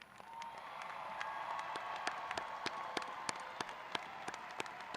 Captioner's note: audience cheering